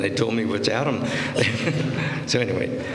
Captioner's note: laughter